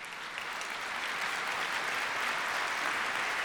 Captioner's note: applause